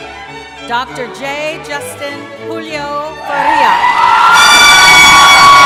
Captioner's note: cheering